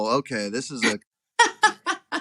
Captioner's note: laugh